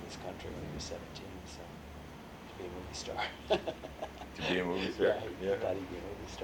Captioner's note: laughs